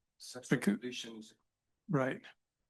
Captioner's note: student speaking faintly